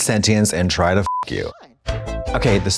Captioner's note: beep; synth bop